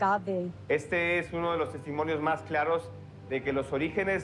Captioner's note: in Spanish